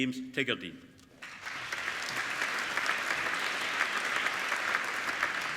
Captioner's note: applauding